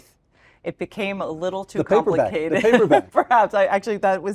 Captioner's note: laugh